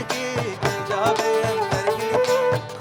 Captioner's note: none